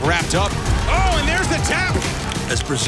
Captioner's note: audience applauding